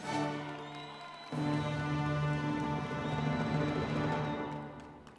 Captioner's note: audience members cheering